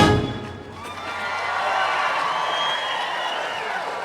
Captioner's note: audience cheering